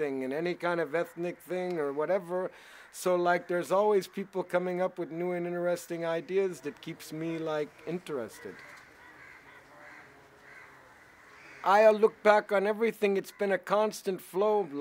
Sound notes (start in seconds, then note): 8.2 birds squawk